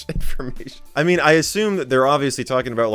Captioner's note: dissolves in laughter